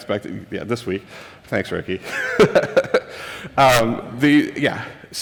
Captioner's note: laughs